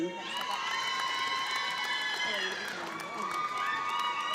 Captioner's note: audience applauds